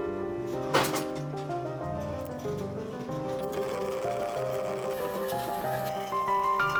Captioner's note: cart rattles; frantic music